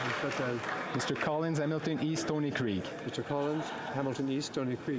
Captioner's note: some Applause